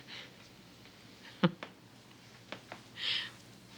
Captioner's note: chuckles